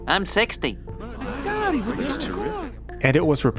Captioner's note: crowd Mumbling